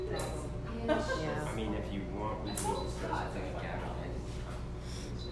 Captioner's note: chatter